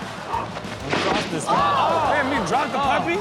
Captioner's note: audience laughs; audience gasps